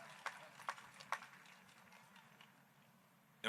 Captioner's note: applause